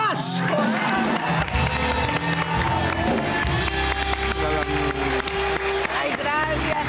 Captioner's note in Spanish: Aplausos; Gritos